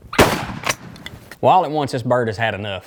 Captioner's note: gunshot